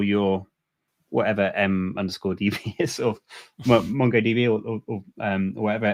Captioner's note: chuckles